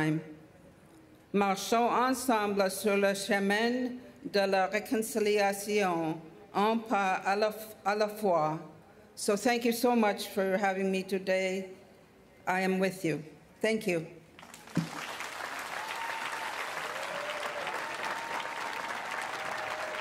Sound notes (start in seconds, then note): 10.5 speaking French